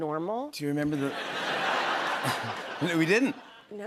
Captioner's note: laughter